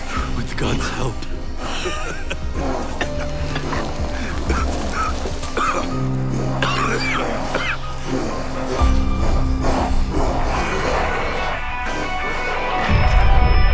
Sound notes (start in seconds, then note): 9.9 coughing